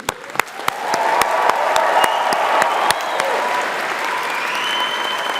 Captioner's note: audience applauding